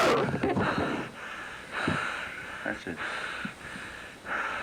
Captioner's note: heavy breathing